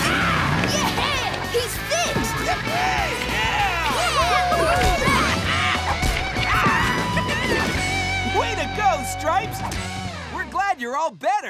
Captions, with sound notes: -Yeah, he's fixed! -Yeah! [cheering] Way to go Stripes! We're glad you're all better.